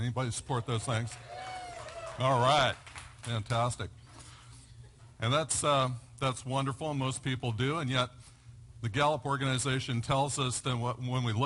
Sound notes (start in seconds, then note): 1.0 yells